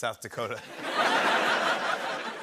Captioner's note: laughter